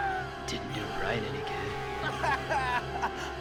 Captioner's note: Brian sobs